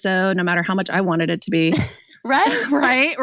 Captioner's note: laughs